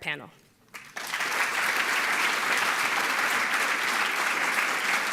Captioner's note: audience applauding